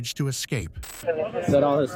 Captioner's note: radio chatter